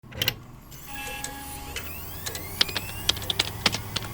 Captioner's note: computer starting up; keyboard clacking